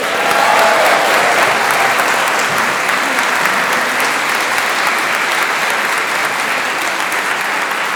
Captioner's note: applause